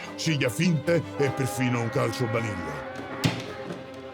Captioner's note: Donkey's bray; classical music continues